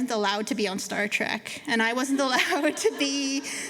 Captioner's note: laughter